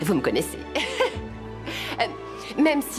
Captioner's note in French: rire